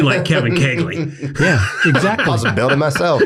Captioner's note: everyone laughs